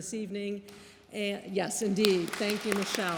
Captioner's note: audience applauding